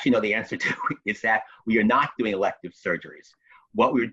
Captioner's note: chuckles